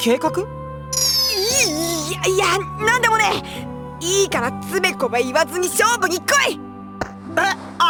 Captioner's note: stuttering